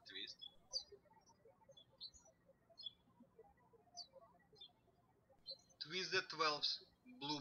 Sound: birds chirping

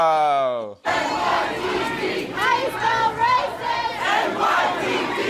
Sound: protesters chanting

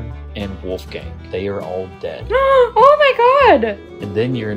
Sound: gasp

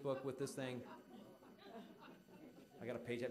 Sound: audience laughing

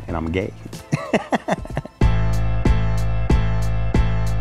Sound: laughs

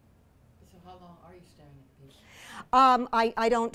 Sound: voiceover

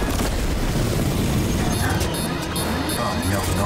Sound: beeping

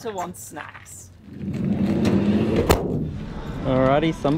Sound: door sliding

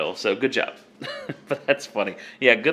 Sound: laughing

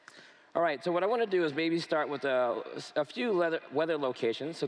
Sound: none

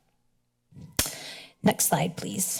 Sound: clicks tongue

